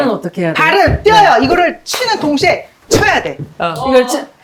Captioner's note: kicking